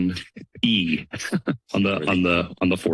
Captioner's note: chuckles